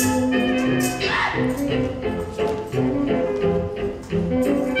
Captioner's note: Bianca cries out